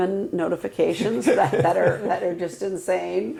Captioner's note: laughing